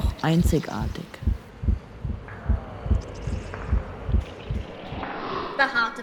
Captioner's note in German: Herzschlag